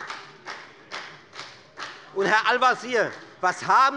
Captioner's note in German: Beifall bei der FDP